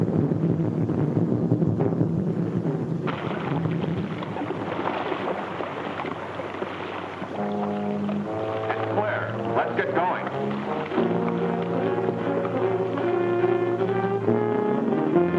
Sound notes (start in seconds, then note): 3.2 water splashes; 7.6 tense brooding music; 12.6 dramatic music